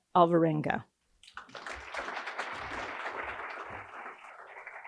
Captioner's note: audience applauding